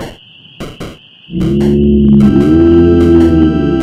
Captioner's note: bellows get louder